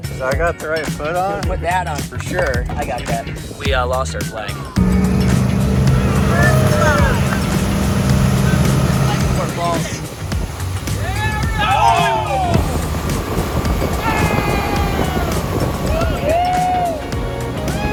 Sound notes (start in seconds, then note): 4.6 boat engine roaring more intensely; 5.8 whooping; 12.0 everyone wincing in unison; 13.6 cheering